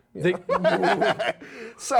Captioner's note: laughing